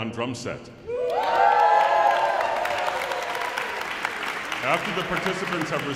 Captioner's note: audience cheering and applauding